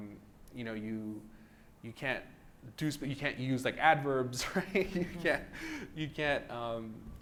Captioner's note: laughs